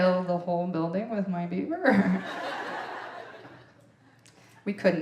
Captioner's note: audience laughing